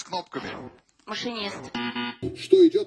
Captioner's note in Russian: пи-пи